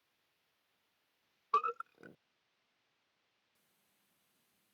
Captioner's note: Sam belches